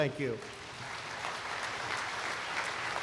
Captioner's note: applause